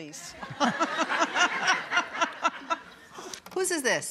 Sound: laughter

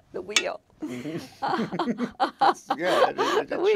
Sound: laughing

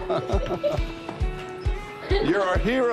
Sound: laughter

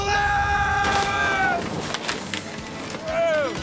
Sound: objects crashing

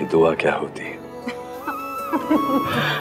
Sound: Ananya laughs

